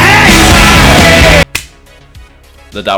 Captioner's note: le clap